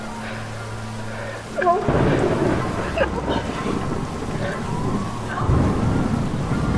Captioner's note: thunder cracks